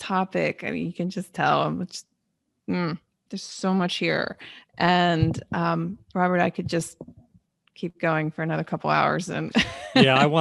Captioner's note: laughing